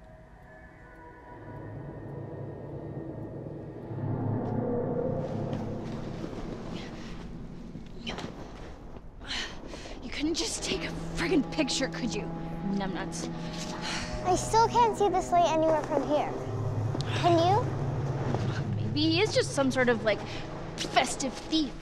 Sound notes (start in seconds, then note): 5.5 dragging and footsteps through crunching snow; 8.3 Kirsten struggles and groans